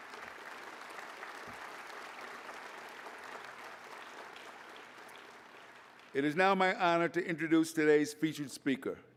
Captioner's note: applause